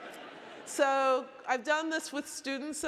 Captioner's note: audience laughing